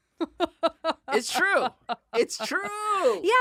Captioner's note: laughing